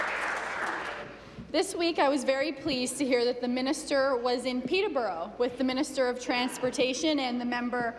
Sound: applause

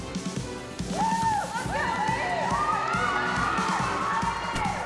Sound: cheerleaders cheering

